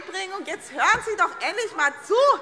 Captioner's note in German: Zurufe SPD